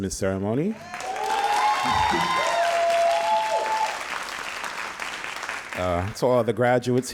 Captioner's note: all applauding and cheering